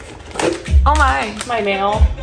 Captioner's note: paper rustling